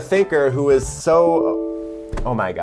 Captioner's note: computer beeps